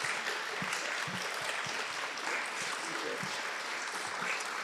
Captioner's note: applause